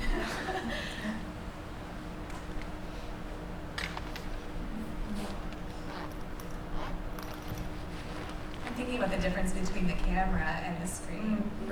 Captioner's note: laughs